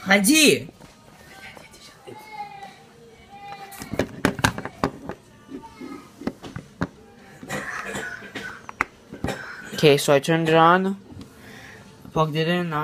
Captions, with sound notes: (speaking foreign language) (plastic rattling) (distant coughing) Okay, so I turned it on, plugged it in.